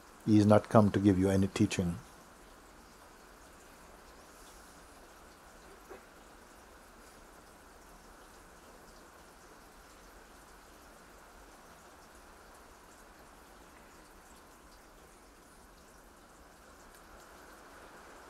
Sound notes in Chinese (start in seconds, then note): 4.2 沉默